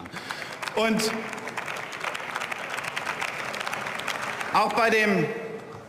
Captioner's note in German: Beifall